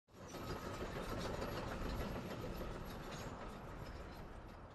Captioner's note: machine rattling